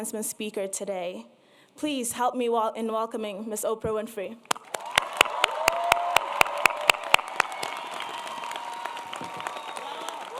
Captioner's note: applause